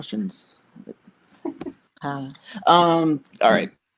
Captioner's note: laughs